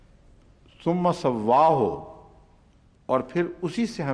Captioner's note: Arabic